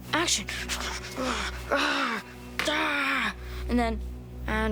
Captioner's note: assorted growls